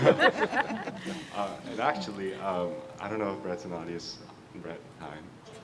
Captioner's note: laughter